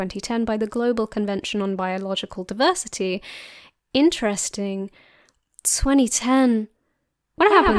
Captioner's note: sleepy reverb voice